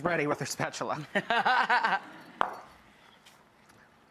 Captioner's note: laughing